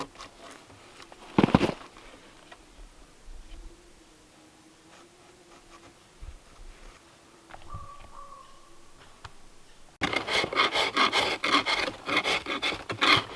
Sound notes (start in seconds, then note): 7.5 distant bird calls; 10.0 drawknife scraping